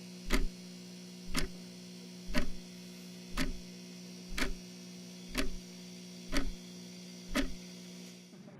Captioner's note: clock ticking continues